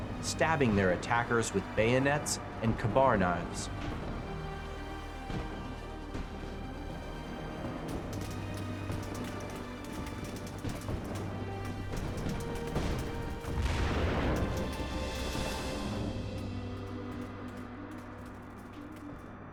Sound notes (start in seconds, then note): 4.7 dramatic music; 12.7 bomb exploding; 16.8 light music